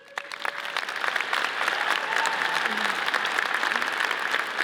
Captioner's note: audience cheers and applauds